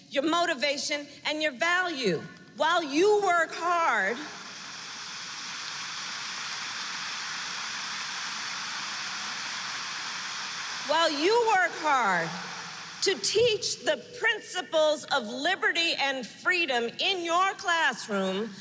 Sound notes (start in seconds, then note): 8.4 applause